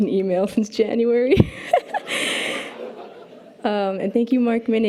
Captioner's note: laughs